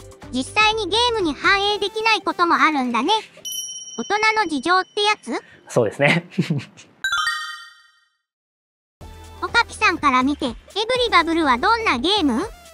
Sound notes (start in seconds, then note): 6.1 laughs